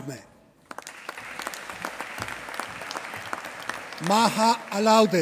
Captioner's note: applause